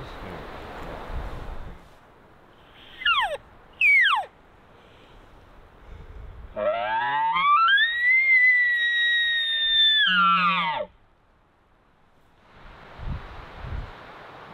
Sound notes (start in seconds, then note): 2.8 caller cow calling; 6.6 caller bugling